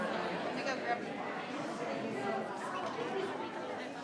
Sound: people chattering

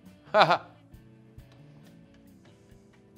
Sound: chuckles

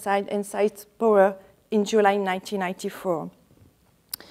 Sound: speaks faintly

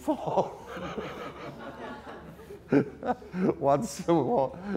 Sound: audience laughter

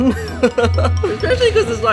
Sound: laughing

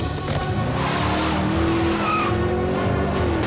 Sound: tires screeching

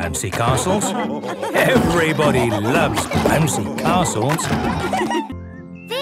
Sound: laughter

